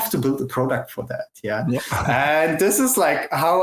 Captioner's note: laughs